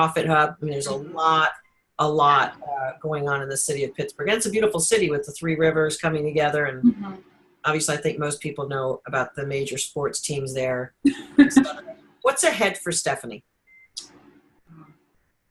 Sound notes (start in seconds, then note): 11.1 giggling